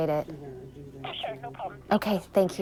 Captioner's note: on phone